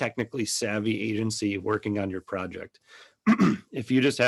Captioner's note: clears throat